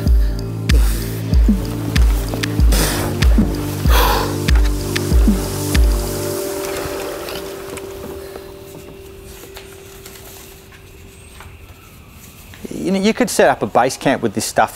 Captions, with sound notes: [puffing, struggling] [music fades] [evening crickets] You could set up a base camp with this stuff